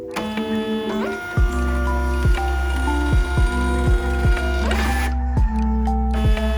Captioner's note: thermal printer working noises